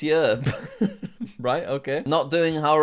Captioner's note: chuckles